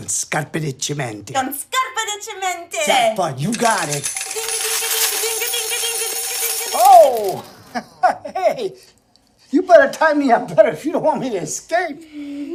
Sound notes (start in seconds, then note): 3.5 coins pouring out of slot machine; 7.5 he laughs